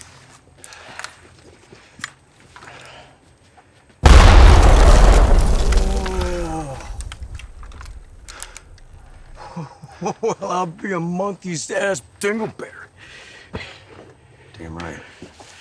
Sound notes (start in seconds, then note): 4.0 explosion booming